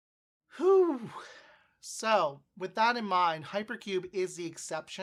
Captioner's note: exhales